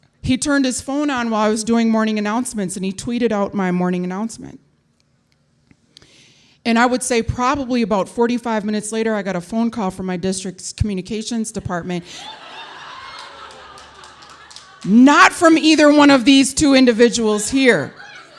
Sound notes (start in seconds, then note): 12.1 audience laughing; 17.8 audience laughing